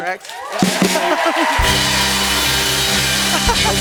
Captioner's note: cheering and applause; rimshot; laughs